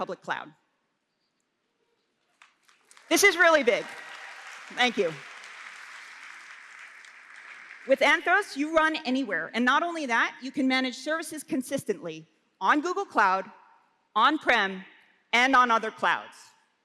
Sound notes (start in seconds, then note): 2.3 applause